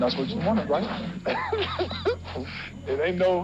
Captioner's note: laughs